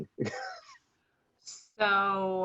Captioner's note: chuckles